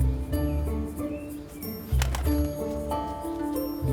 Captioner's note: birds chirping